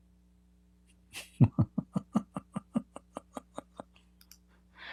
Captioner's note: Ketawa